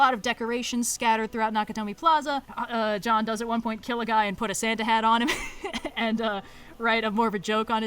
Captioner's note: laughs